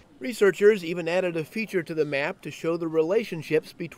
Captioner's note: voiceover